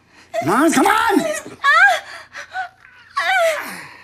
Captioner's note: Holly cries